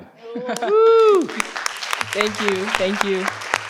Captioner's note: participant laughs; participants clap